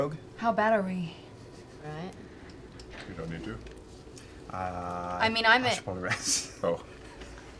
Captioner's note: laughing